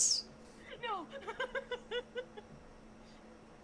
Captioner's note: laughing